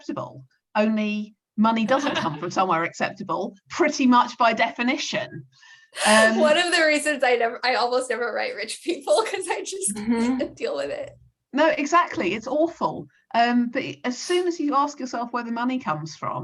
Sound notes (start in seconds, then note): 6.0 laughs